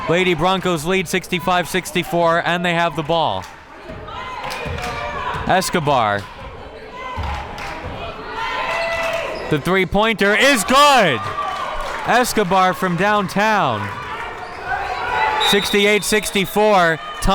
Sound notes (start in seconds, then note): 6.6 crowd members chanting; 15.4 whistle tweeting